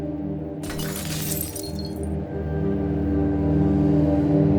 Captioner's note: glass shattering